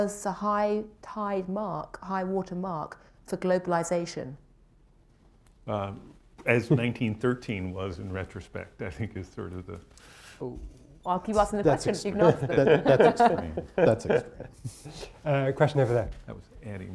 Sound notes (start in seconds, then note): 11.8 laughter